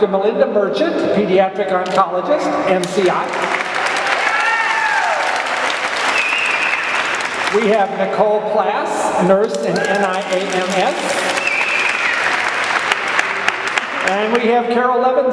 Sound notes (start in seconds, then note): 2.8 clapping and cheering; 9.4 clapping